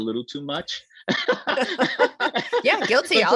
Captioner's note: laughs